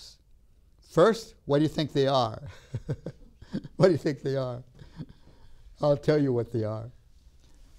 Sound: laughs

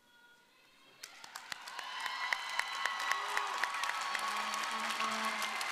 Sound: audience applauding

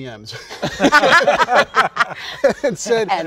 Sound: all laughing

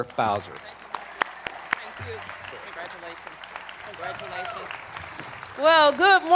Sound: applause

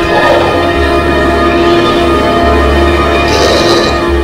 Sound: growling

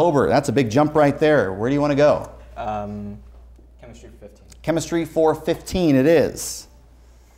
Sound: none

